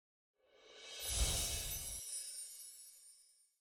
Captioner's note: chiming